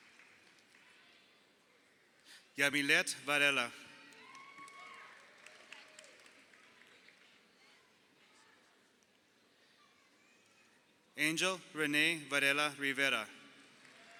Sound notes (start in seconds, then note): 4.0 crowd cheering